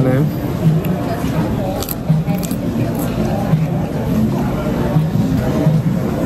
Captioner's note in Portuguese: mastigação